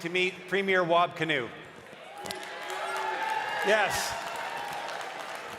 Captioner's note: cheering and applause